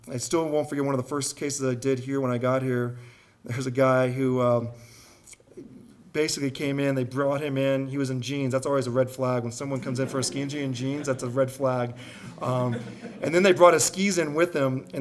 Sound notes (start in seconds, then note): 9.7 audience laughing